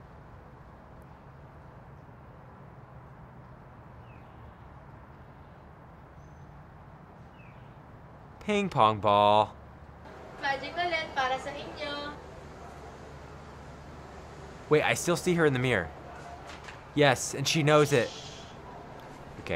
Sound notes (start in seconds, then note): 10.7 speaks foreign language; 18.0 girl shushes